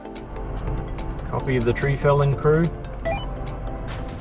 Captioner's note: Uniden CB roger beep